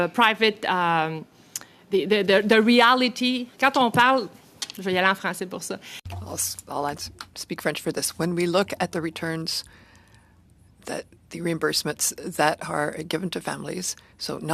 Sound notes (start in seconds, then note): 8.0 speaking French